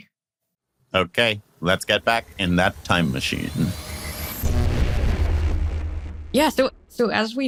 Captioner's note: time machine sound effect